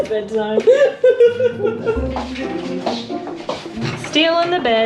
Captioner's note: laughing